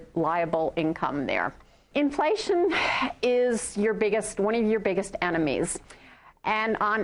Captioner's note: exhale